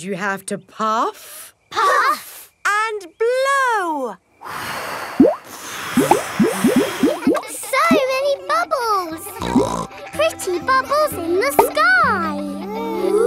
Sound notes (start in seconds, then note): 4.5 all blowing; 9.4 snorts